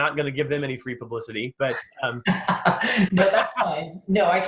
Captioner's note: laughs